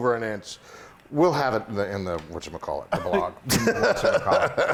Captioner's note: laugh